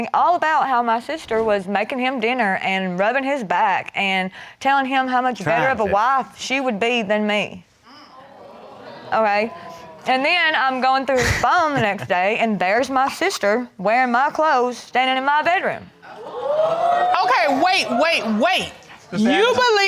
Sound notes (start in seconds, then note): 9.4 crowd gasping; 16.1 crowd whooping